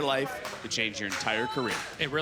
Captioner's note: crowd clapping